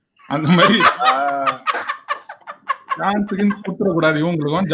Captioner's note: laughs